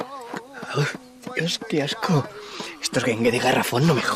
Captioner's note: gagging